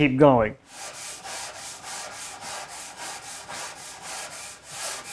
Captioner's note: wood scratching